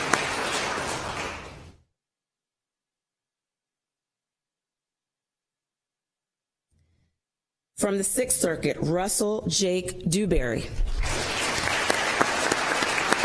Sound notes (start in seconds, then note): 2.5 applause